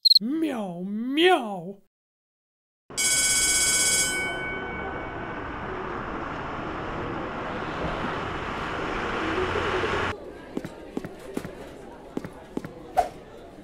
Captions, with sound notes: ....Ew thats nasty *School bell rings*